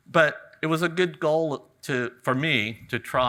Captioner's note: none